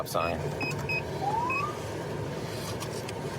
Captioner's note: siren chirps